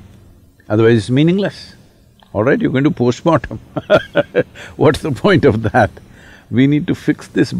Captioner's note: laughs